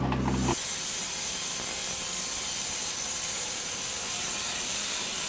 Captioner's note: machine sawing